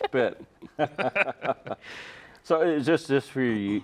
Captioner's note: all chuckling